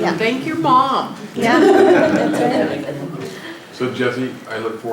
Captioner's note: laughter